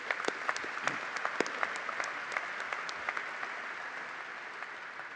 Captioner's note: applause